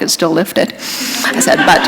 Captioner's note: laughter